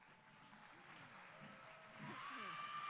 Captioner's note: applause